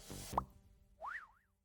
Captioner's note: bubble popping; slide whistle tooting